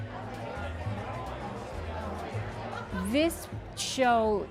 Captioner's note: people chattering